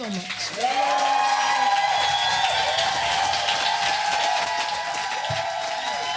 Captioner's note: audience cheering and applauding